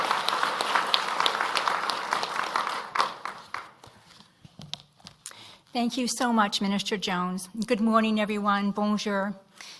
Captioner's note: applause